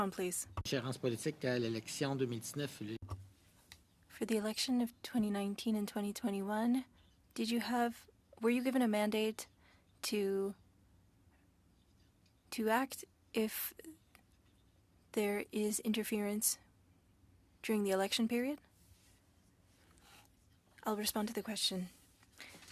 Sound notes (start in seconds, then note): 5.8 speaking French